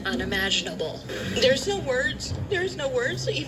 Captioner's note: on TV